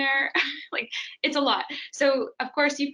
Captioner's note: chuckles